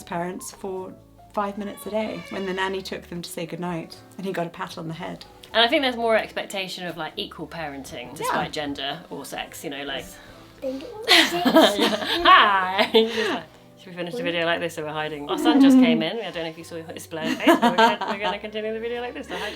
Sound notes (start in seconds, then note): 11.0 laughing